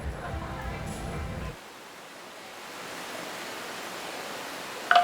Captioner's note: running water